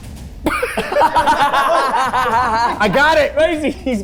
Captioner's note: everyone laughing